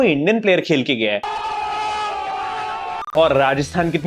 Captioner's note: cheering